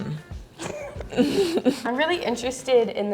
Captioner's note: both laugh